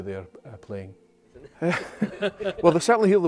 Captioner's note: laughs